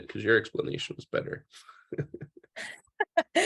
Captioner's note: laughs